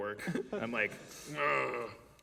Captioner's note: groaning